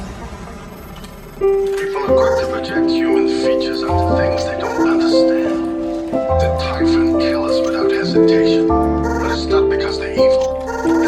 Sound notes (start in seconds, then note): 2.2 yawn